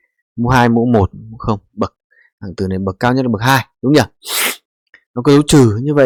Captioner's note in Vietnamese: khịt mũi